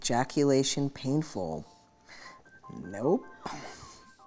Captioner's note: chuckles